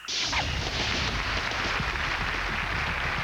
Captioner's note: applause